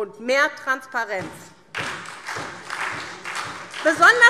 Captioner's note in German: Beifall SPD